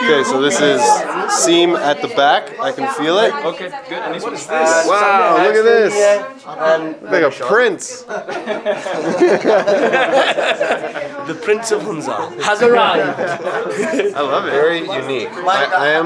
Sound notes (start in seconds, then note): 8.0 men laughing